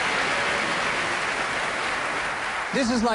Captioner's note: applause